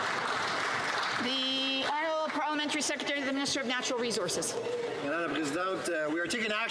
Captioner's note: some Applause